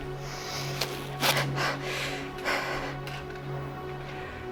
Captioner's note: tape ripping